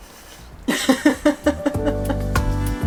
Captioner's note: laughing